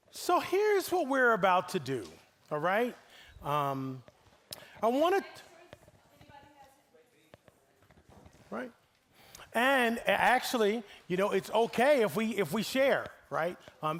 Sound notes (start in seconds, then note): none